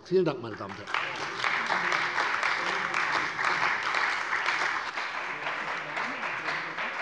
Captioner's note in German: Beifall bei der CDU und dem BÜNDNIS 90/DIE GRÜNEN